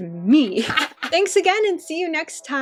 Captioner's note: cackles